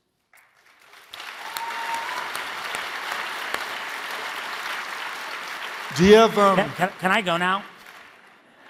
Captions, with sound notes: (audience applauding) (audience cheering) - Do you have- - Can I go now?